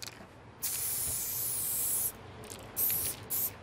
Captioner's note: hissing spray sounds